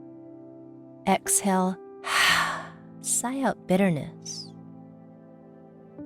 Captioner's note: heavy sighing